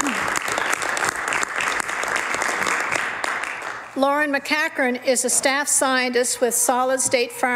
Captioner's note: some Applause